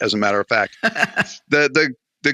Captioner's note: laughs